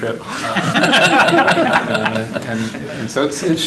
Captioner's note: laughter